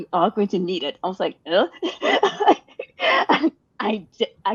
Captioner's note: laughing